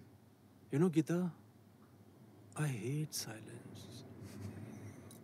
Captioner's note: Chuckles